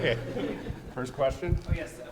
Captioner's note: audience laughing